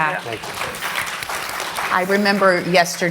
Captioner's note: applause